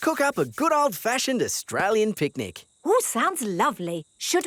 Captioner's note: none